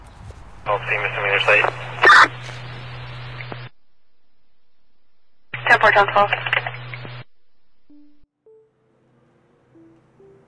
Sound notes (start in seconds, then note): 0.9 chattering on radio; 7.9 soft music